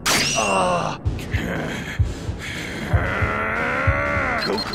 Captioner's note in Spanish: Gruñidos